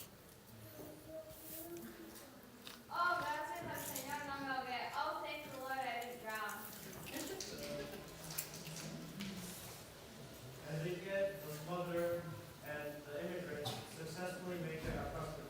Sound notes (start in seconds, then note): 6.3 says in Spanish, then English